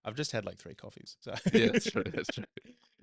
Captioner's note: laughing